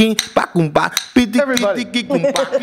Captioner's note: laughter